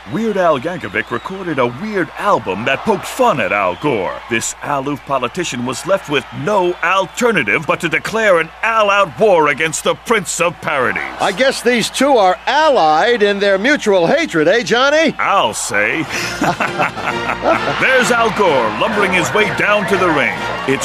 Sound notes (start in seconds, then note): 15.9 Johnny and Nick laughing; 19.7 victorious music playing